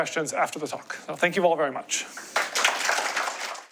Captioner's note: applause